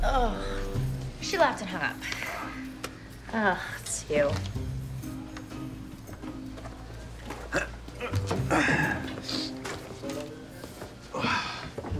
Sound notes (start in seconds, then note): 7.6 Nicolas grunts